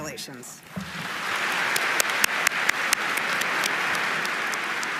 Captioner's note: audience applauding